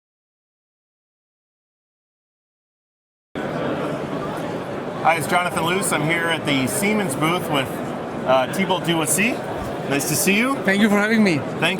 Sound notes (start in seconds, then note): 3.3 indistinct background chatter